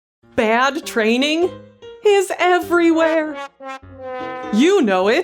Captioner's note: comedic horn sound